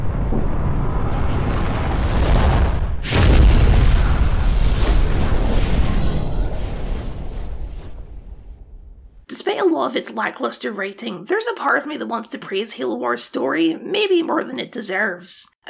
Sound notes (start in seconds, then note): 0.0 implosion noises